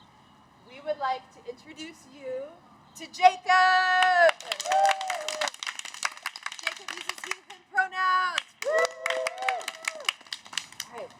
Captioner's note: cheers